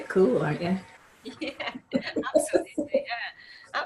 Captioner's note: laughs